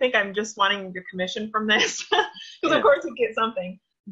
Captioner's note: laughs